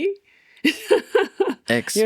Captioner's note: both laughing